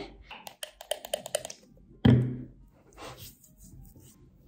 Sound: bottle cap clicking

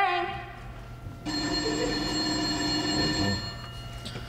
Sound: phone ringing

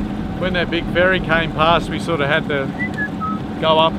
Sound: whistle

